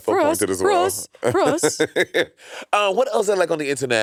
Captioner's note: Monét laughing